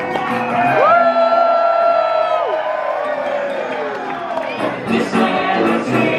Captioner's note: audience cheering and applauding